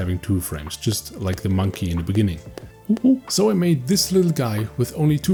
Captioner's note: monkey noises